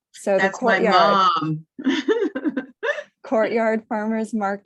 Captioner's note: laughs